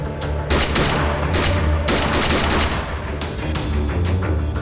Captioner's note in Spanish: Disparos